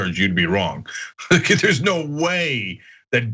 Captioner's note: laugh